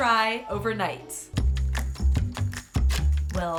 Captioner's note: clock ticking